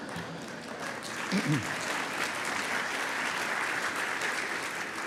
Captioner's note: applause